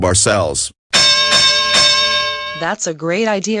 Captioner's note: boxing bell rings